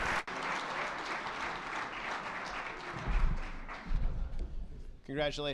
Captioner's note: attendees clapping